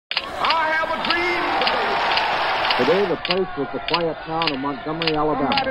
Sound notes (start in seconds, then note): 0.1 spectators cheering; 1.4 shutter clicks